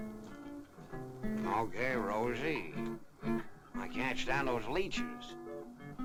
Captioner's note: as Humphrey Bogart